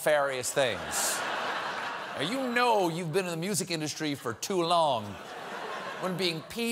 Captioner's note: laughter